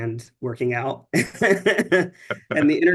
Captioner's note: chuckling